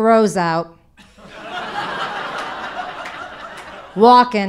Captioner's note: audience laughing